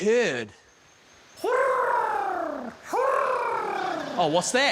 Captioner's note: guy mimics bird cooing